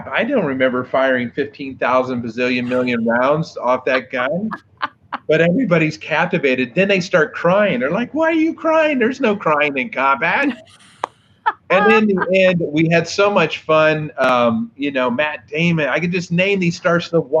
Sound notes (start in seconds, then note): 4.5 host laughs; 11.5 host laughs